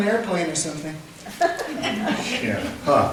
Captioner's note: laughter